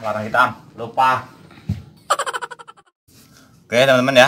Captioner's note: laughs